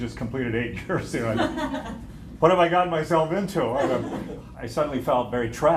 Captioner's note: laughter